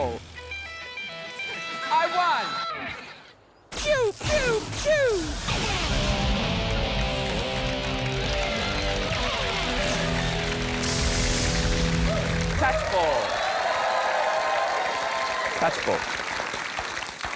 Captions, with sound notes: (ROCK GUITAR STING) I won! Pew! Pew! Pew! (ROCK GUITAR SOLO) Touchball. (CHEERING, APPLAUSE) Touchball.